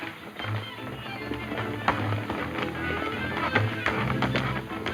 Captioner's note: hooves clopping